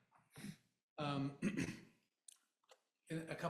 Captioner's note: clears throat